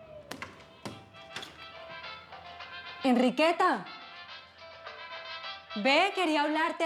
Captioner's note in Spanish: toques en la puerta; sonido al abrir la puerta